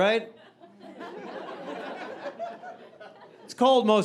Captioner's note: audience laughing